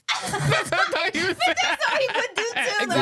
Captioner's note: laughing